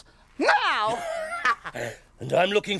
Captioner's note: Groove laughs